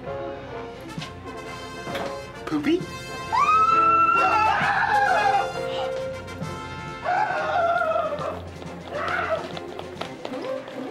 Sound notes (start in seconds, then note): 0.9 mixed screaming; 5.0 screaming